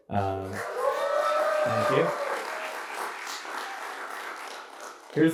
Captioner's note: applause